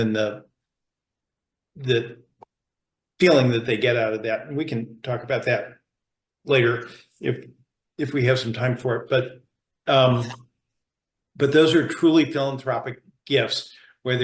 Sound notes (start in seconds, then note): none